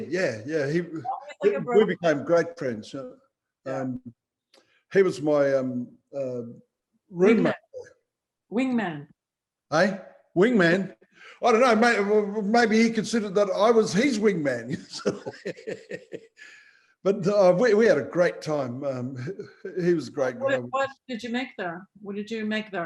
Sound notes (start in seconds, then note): 14.6 laughing